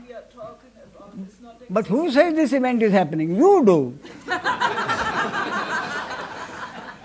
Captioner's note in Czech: smích